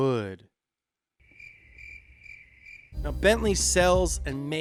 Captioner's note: crickets chirping